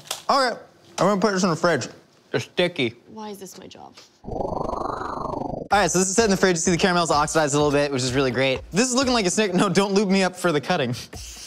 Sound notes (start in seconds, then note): 4.3 whooshing; 11.2 spraying